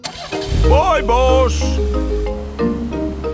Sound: car engine starts

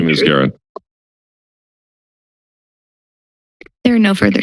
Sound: silence

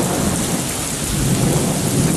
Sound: sound of Heavy Rain

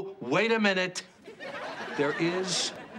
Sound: audience laughs

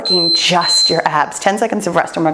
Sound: timer beeps

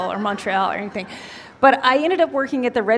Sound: laughter

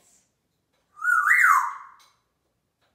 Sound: whistling

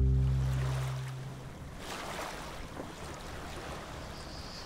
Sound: waves crashing

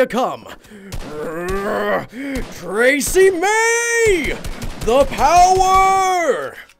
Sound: groans

